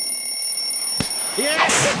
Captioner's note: bell rings